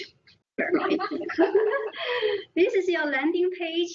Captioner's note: all laughing